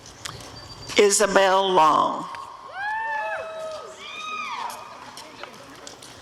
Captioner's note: audience cheering